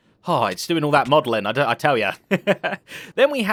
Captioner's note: laughs